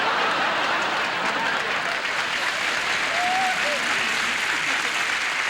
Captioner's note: audience applauding; audience laughing